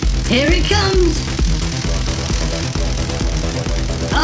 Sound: electricity crackling

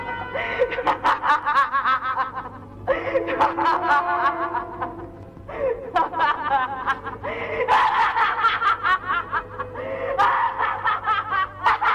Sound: laughs

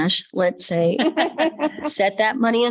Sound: members laughing

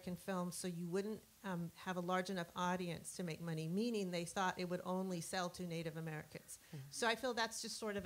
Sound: murmur of dissent

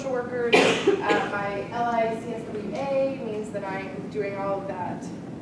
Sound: cough

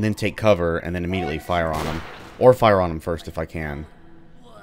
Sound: bang

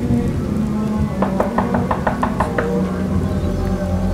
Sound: fast knocking

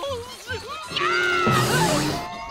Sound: screams

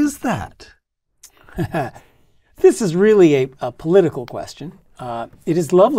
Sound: laugh

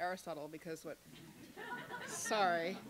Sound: laughter

